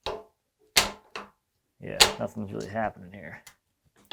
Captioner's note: metal clanging